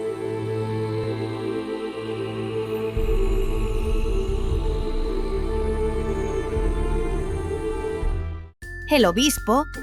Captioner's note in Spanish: Voz en off